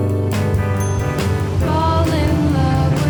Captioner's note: bell dings